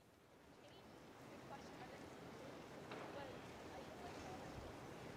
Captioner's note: people chatting indistinctly